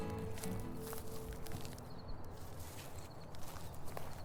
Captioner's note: rustling of leaves and brush